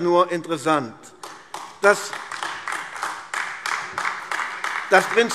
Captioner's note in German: Beifall AfD